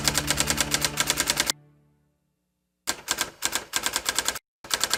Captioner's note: sound of teletype